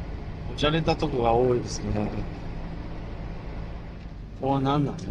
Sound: none

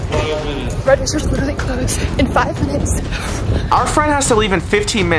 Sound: panting

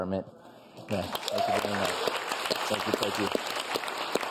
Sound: audience claps

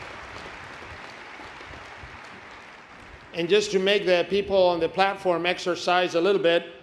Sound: applause

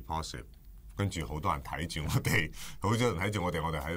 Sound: chuckles

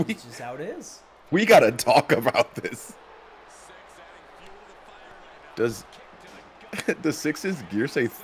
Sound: laugh

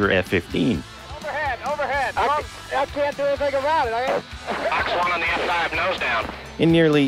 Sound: radio chatter

